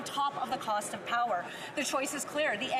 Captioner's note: none